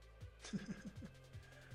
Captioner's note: laughs